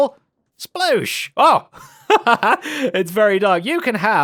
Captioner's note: laughs